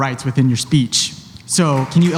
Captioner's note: applause